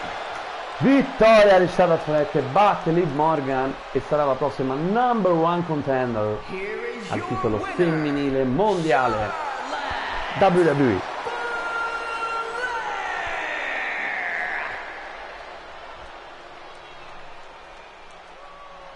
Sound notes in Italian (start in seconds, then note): 12.2 Applauso